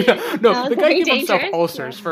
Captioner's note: laughs